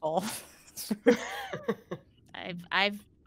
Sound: laughing

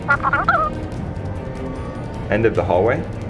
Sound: incoherent squeaky voice

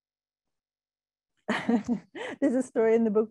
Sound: laughing

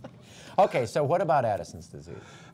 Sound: laughter

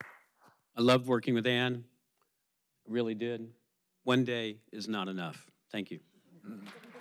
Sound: applause

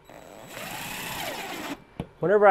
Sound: drill whirring

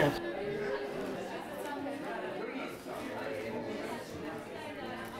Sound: crowd chattering

